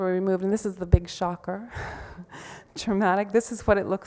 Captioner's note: laughs